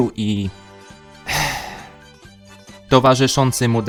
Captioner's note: sigh